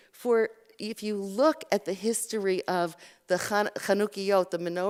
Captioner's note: Hebrew